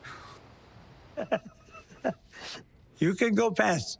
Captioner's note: laughing